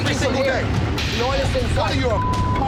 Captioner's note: chatter